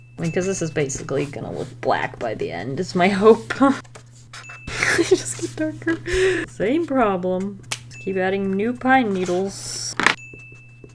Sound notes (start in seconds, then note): 4.6 laughs